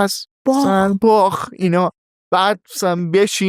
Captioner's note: laughs